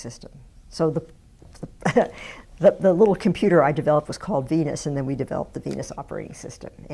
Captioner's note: chuckles